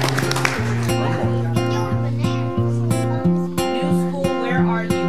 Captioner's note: audience applauds; children murmuring; heartwarming music